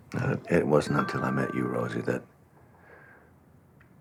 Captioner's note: cell phone chimes